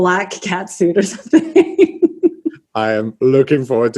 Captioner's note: laughs